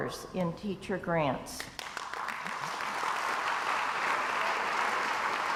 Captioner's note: crowd applauds